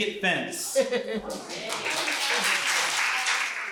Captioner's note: crowd applauds